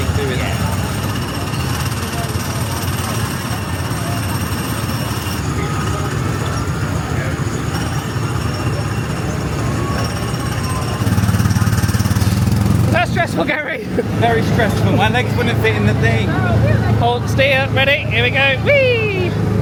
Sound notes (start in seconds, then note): 11.4 engine purrs